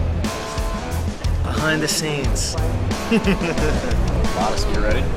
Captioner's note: chuckling